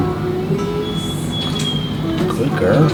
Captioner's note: dog whining